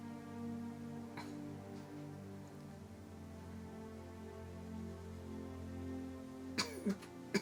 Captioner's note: coughs